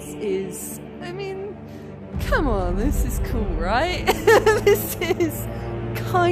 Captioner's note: laughing